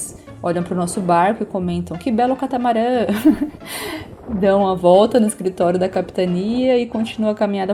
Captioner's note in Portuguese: risadas